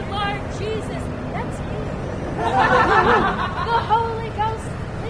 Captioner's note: laughter